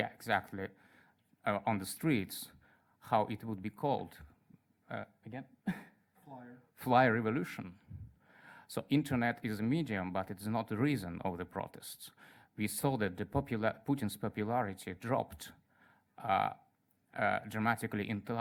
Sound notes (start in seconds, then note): 6.3 voiceover